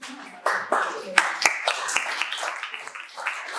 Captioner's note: applause